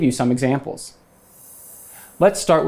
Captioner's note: graphics whooshing